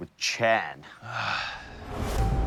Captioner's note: sighs